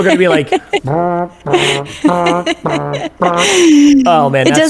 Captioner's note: imitates trombone